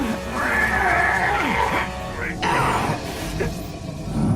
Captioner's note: both grunting